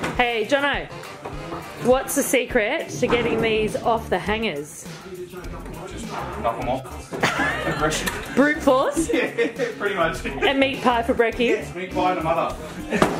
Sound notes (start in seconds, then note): 7.2 chuckles